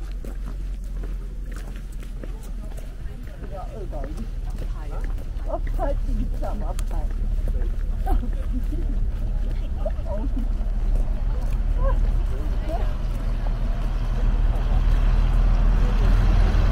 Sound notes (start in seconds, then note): 7.3 laughs